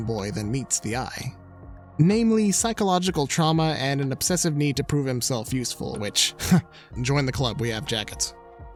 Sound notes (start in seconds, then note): 6.3 scoffs